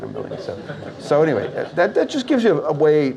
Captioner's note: audience Laughs